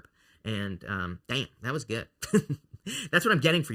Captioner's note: chuckles